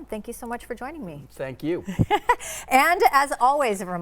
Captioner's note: laughing